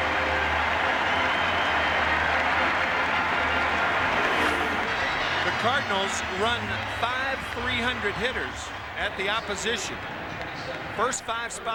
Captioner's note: cheers and applause